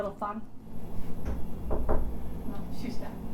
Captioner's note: knock, knock